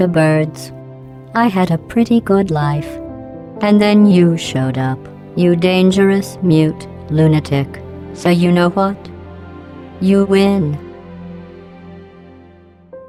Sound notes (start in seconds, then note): none